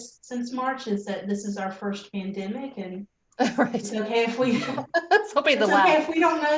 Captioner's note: group laughter